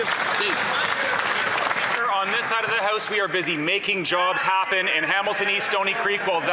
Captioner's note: some Applause